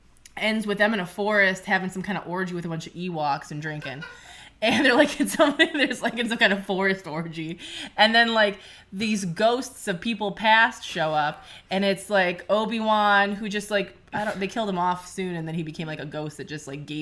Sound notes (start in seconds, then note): 3.8 laughing off screen